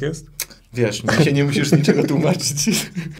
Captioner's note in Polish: mlask